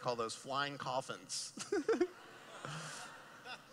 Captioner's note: laughing